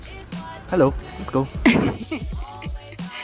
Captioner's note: laughs